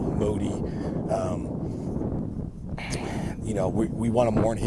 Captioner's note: wind wooshing